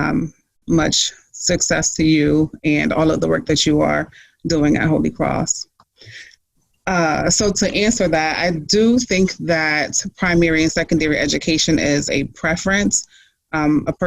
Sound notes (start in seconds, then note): none